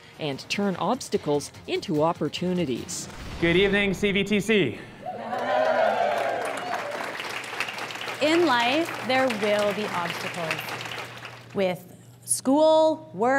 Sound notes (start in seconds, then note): 5.2 applause